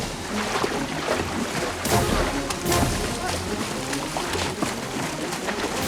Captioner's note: shouting